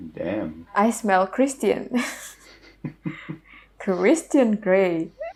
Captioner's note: haha